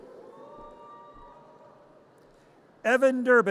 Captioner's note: audience cheers